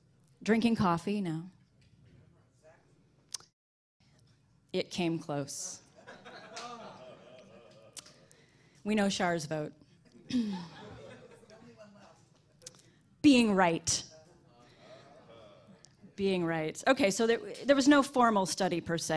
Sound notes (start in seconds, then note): 6.0 laughing